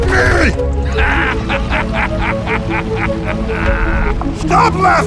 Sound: The F4U-4B laughs

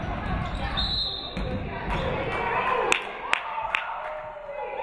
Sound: referee whistles

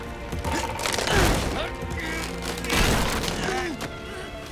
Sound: grunting

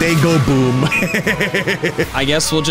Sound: laughing

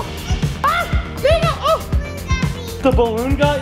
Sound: screams

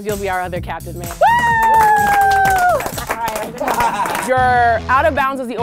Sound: crowd applauding

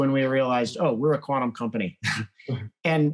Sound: laughs

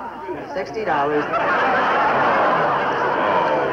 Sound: people laughing

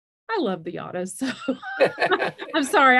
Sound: laughter

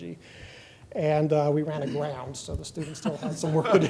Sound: laughter

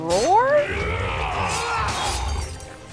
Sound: both grunting

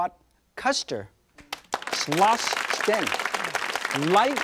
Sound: audience clapping drowns out speaker

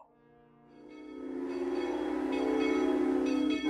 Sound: train whistle blows

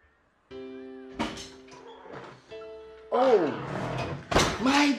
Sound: door open and closes

